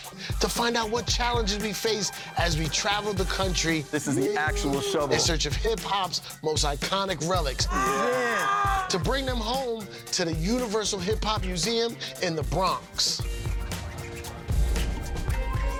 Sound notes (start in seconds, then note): 7.6 woman exclaims; 13.1 upbeat music